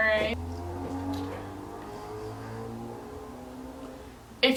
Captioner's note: car accelerates in the background